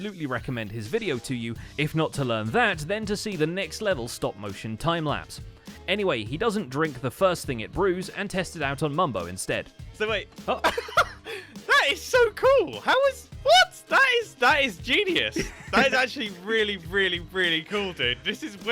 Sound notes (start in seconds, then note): 10.4 mic-peaking surprised laughter